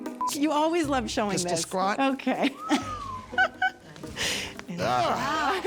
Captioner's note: calm quirky music; laughs